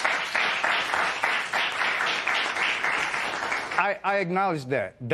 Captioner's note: applause